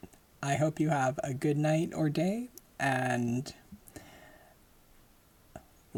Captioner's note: none